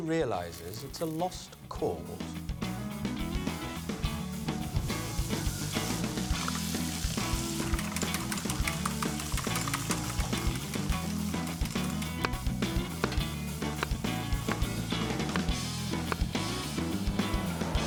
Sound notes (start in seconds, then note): 3.2 pan sizzling; 3.2 upbeat music; 12.8 knife thudding; 12.8 upbeat music